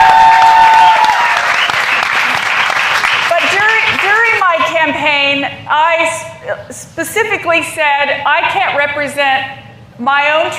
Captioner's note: cheers and applause